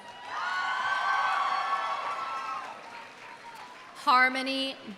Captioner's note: audience cheering; audience applauding